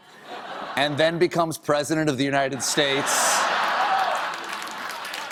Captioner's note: applause; laughter